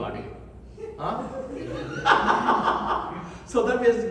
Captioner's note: laughs